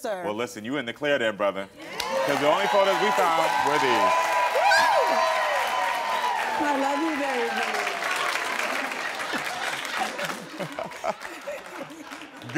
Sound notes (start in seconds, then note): 2.2 audience cheering; 5.1 audience cheering; 7.8 audience applauding; 9.5 audience laughs